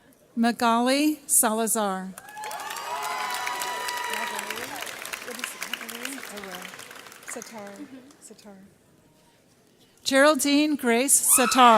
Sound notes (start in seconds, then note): 2.2 audience cheers